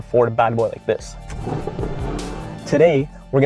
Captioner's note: engine starts